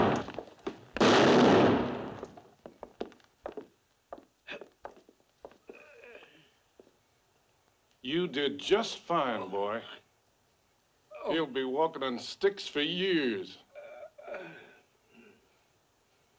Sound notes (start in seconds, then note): 1.0 gunshot; 5.6 groaning; 13.7 groaning